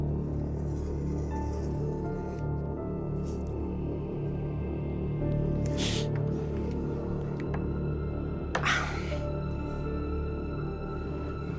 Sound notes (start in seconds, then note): 5.3 gasps; 8.8 tense music